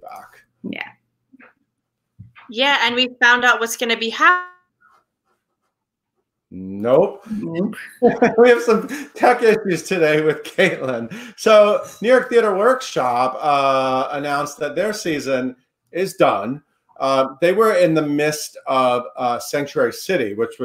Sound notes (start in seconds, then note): 6.7 laughs